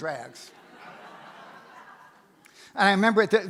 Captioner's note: audience laughs